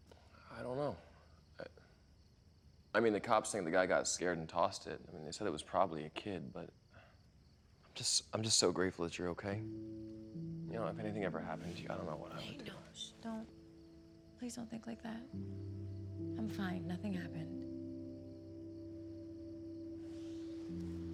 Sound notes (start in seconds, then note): 13.4 shushes; 17.9 soft pensive music